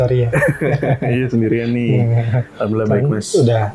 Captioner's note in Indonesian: tertawa